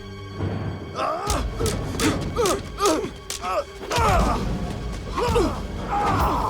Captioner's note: Dalton and Knox grunting; sticks clacking